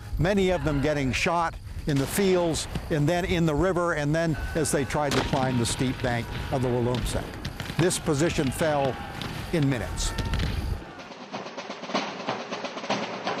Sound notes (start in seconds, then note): 1.9 guns firing; 7.2 soldiers shouting; 10.4 lively drumming